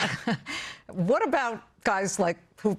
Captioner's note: laughter